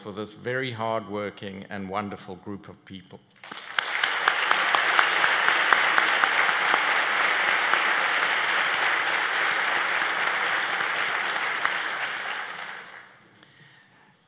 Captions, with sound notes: FOR THOSE VERY HARD WORKING AND WONDERFUL GROUP OF PEOPLE. [ APPLAUSE ]